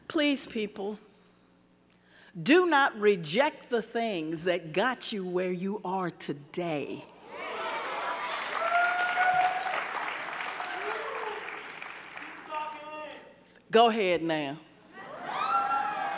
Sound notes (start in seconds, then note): 7.3 audience cheering; 7.8 audience clapping; 12.1 man cheering; 15.0 audience cheering